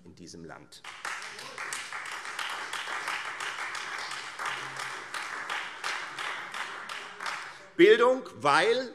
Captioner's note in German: Beifall Freie Demokraten und vereinzelt SPD